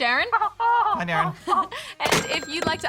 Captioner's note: laughs